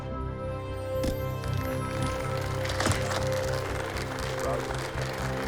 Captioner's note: applauses